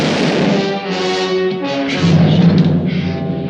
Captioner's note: gunfire pops